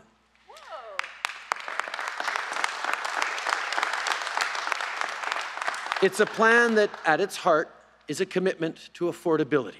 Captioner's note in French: Applaudissements